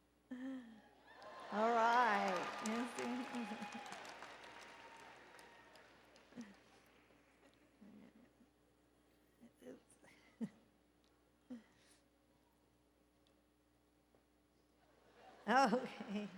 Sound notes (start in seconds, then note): 3.5 applause and Cheering